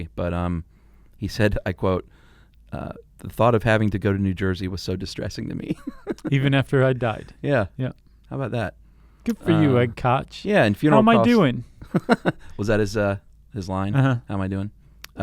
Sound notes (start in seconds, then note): 5.6 chuckling; 11.9 laughing